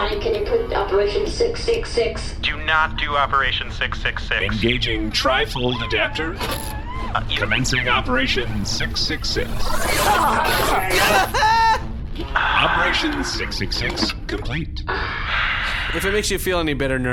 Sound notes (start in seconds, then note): 9.5 Bargie and Dar groan. Pleck screams